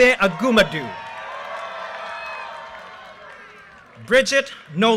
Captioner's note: audience cheers and applause